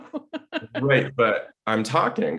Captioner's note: laughing